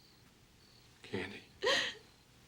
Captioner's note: crying